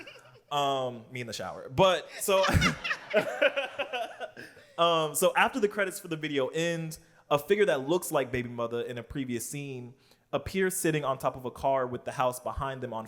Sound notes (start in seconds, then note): 0.0 laughs; 2.2 laughter